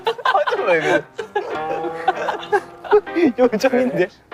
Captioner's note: unable to hold the laughter